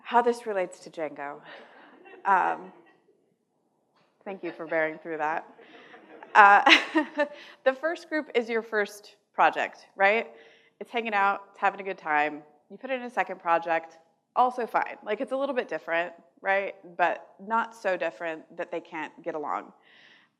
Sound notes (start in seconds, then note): 5.5 laughs